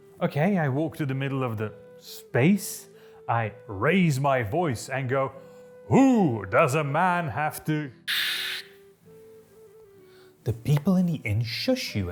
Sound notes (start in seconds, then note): 8.1 shushing